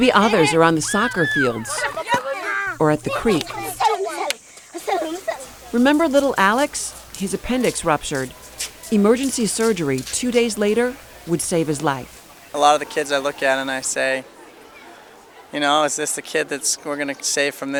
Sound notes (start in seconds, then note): 4.8 giggle